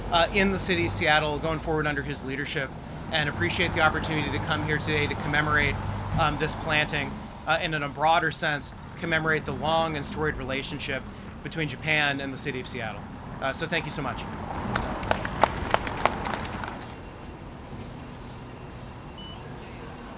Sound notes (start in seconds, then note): 14.7 applause